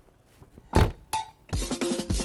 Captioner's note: car door closing; upbeat music